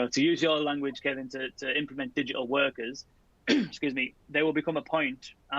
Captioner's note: throat clearing